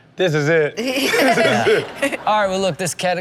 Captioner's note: Chanel laughing